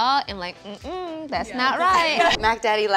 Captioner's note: all laugh